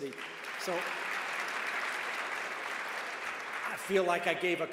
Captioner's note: cheers